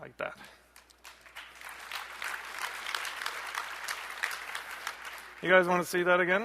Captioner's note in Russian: аплодисменты